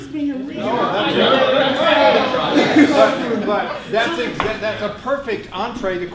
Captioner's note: audience chatters